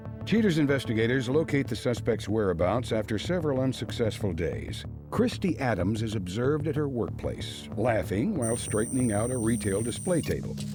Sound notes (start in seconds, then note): none